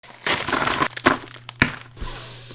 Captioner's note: Candy banging on the table